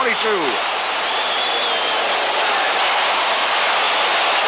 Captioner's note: crowd cheering